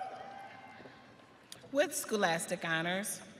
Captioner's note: audience cheering